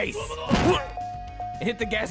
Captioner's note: smash